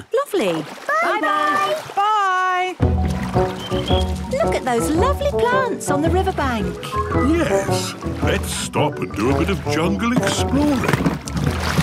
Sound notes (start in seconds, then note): 3.2 chirping